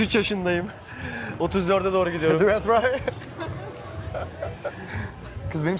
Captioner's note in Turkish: kahkaha